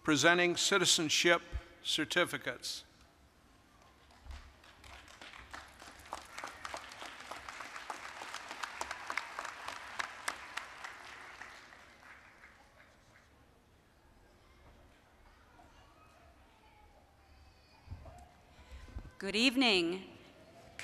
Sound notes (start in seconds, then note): 3.9 applause